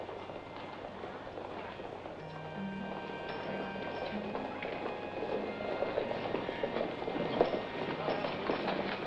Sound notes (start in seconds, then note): 2.1 horses hooves approaching